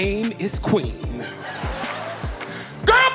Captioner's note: audience laughing